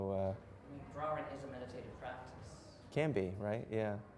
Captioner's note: voiceover